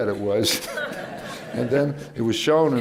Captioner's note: laughter